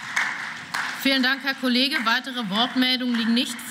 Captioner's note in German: Beifall